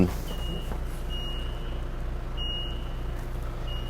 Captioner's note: TV beeping